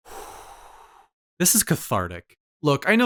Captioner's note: breath